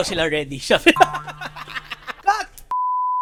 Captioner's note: laughs